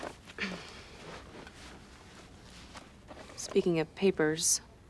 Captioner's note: coughs